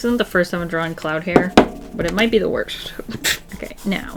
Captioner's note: short laugh